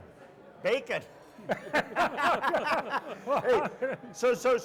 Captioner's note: group laughs